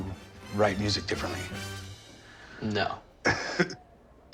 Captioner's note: laughs